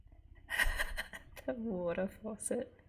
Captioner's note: laughs